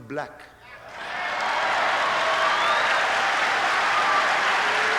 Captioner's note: applause